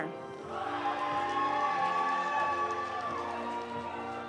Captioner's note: audience cheering; audience applauding